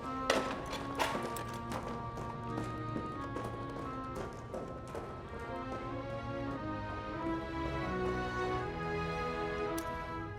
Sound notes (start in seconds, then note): 0.2 dramatic music; 1.8 footsteps tapping